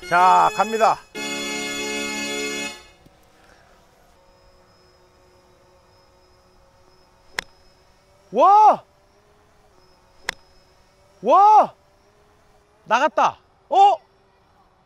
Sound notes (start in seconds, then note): 7.3 snap!